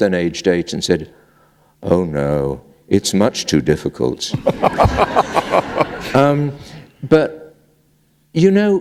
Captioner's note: laughter